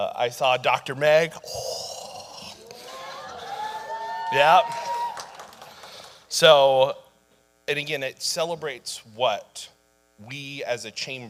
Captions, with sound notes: I saw Dr. Meg, oh. (audience howling) Yep. So, and again, it celebrates what we as a Chamber,